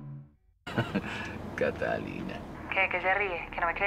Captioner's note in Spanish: Risas